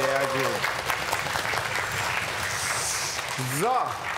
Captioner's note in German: Jubel und Applaus